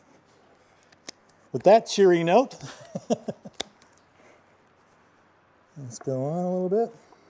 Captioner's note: laughs